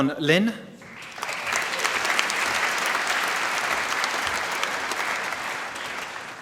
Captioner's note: applause